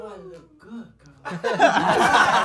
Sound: laughing

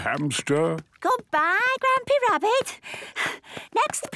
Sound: panting

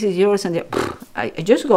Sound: blows lips

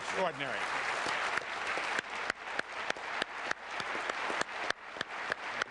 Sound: applause

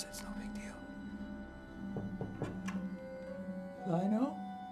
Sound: knocking

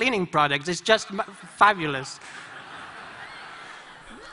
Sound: laughter

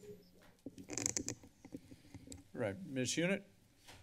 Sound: mic noise

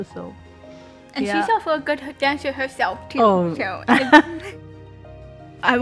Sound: chuckles

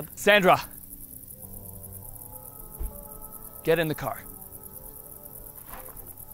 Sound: insects chirping

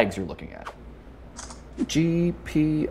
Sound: camera shutter snaps

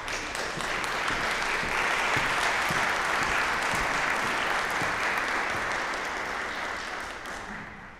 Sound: applause

